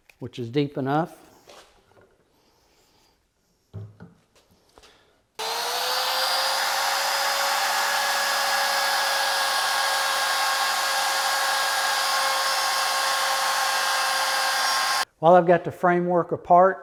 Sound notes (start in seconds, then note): 6.4 saw buzzing